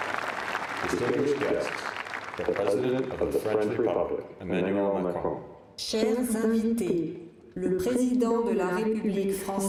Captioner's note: applause